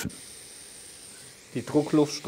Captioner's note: hissing